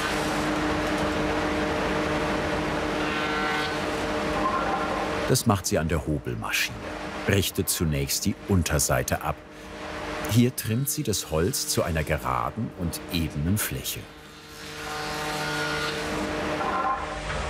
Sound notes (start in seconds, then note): 14.2 planing noises